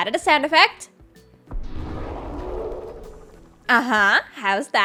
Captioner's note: creepy sound